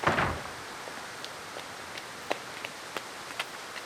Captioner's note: door thudding